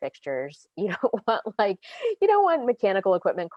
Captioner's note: laughs